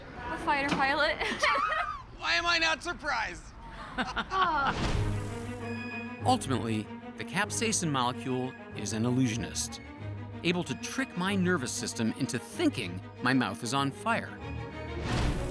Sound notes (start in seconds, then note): 1.0 laughs; 3.6 laughing; 3.7 sighs